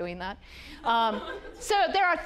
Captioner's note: audience laughing